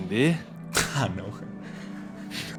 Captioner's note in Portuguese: risada